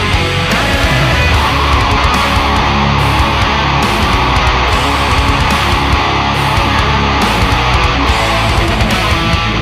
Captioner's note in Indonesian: scream